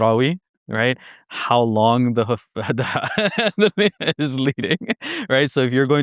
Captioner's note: laughing